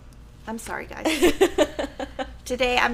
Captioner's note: laughing